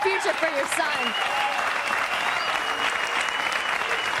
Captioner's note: audience cheering